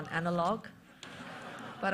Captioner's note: laughter